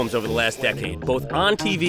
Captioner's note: saw whirring